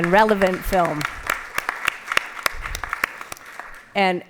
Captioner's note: applause